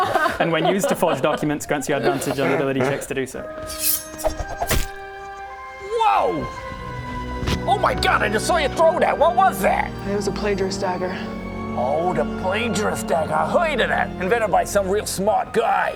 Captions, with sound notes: and when used to forge documents grants you advantage on ability checks to do so *shing!* *wumpwumpwump thud* Whoa! Oh my god I just saw you throw that! What was that? That was a plagiarist dagger oh the plagiarist's dagger I heard of that, invented by some real smart guy